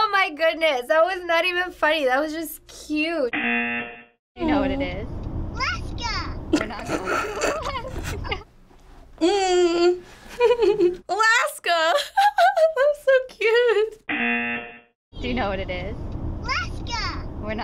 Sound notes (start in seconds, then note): 3.3 buzzer rings; 6.5 laughs; 10.3 laughs; 14.1 buzzer rings